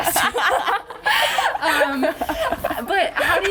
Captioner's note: laughs